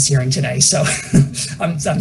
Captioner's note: laughs